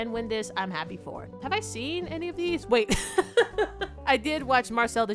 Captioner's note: laughs